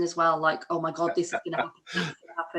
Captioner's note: laughs